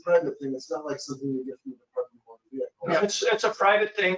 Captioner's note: speaking faintly